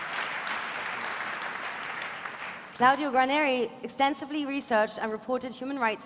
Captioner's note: applause